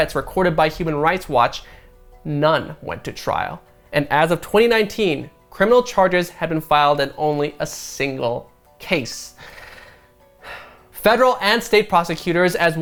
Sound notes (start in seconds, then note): 10.4 sighs